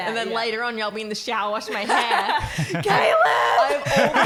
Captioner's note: laughing